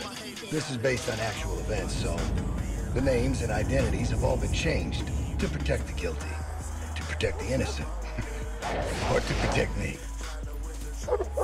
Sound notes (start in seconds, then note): 7.3 chuckles; 11.0 dog barking